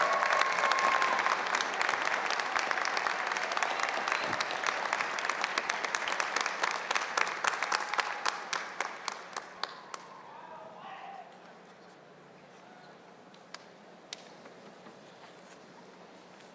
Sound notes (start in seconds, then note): 8.7 applause